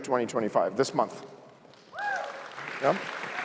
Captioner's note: applause